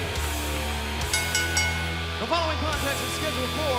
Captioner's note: bell ringing